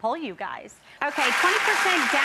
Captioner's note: audience applause